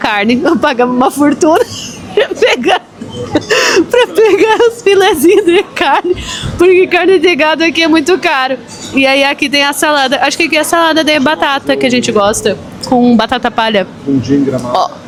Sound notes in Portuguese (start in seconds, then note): 3.0 risadas